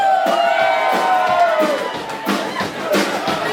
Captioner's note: cheering